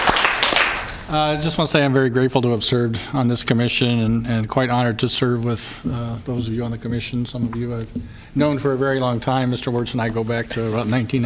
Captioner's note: applause